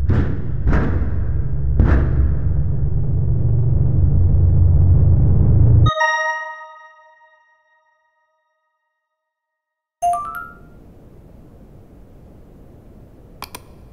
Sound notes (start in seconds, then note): 4.3 high intensity music; 6.2 computer notification chiming; 13.4 computer mouse clicking